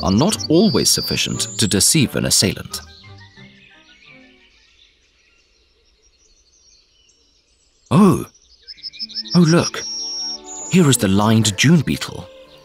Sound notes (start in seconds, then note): 3.0 birds singing